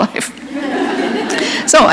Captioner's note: laughter